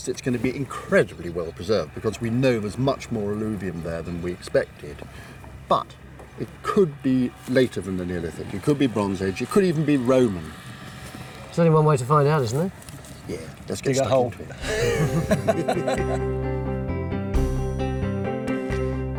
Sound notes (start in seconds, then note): 14.6 all laughing; 14.8 bright melodic music